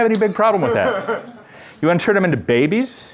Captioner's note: laughter